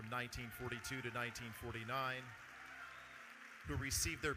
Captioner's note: audience cheering